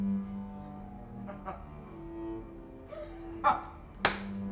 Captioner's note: laughs